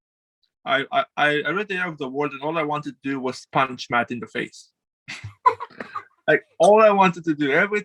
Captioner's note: laughs